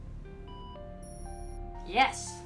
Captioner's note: electronic beeping